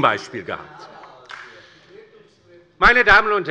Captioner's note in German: Beifall bei der LINKEN